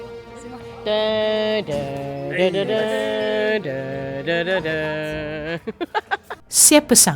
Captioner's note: laugh